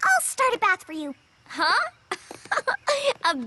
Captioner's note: laughs